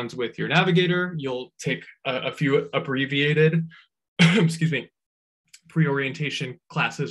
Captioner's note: coughs